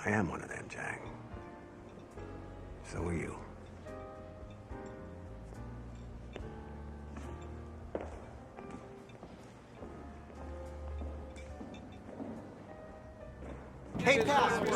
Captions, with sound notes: - I am one of them, Jack. So are you. (gentle piano music) (footsteps patter) (gentle piano music)